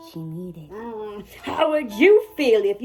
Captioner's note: groans